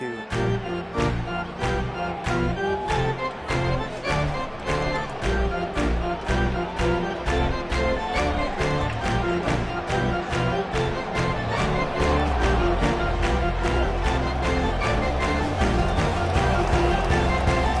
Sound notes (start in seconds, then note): 0.2 crowd clapping; 0.2 lively organ music; 10.0 crowd continues clapping; 10.0 lively organ music continues